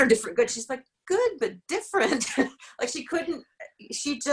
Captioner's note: laughs